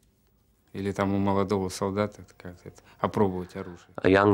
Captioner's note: speaking Russian